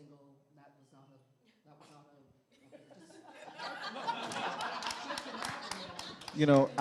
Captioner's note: laughter